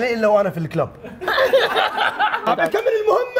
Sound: laughter

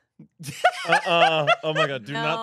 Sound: laughs

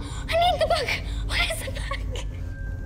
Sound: sobs

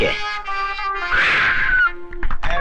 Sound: puff

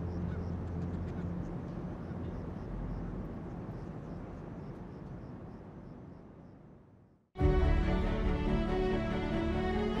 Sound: wind and bird noises

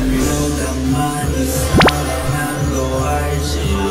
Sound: 0.5x speed full of electronic sounds

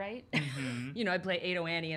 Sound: chuckling

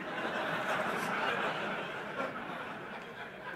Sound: laughter and applause

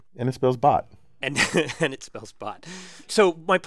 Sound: laugh

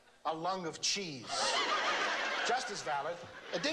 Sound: laughter

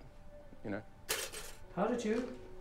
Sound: toaster popping

